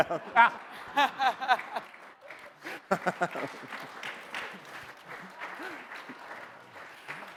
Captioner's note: laughs; audience laughs; audience applauds